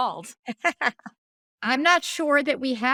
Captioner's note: laughing